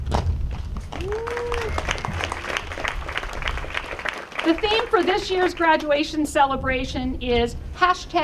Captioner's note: applause